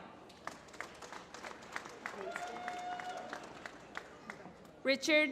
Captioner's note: applause